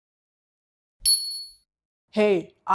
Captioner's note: bell dings